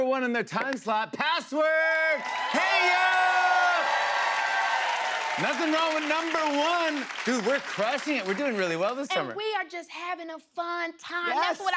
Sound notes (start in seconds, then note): 1.9 cheers and applause